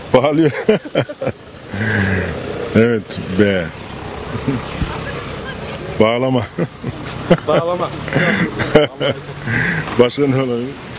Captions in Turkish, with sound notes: ( Gülme sesi ) - Evet - B - Bağlama + Bağlama ( Gülme sesi ) - Başka ne olabilir